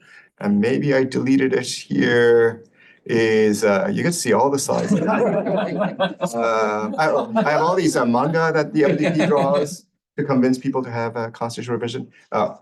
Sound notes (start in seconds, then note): 4.7 laughter